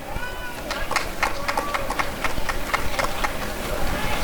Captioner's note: applause and cheering